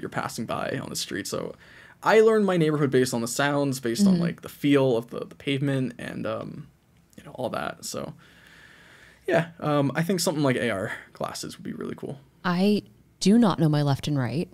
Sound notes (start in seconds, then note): none